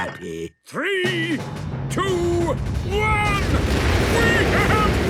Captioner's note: rockets igniting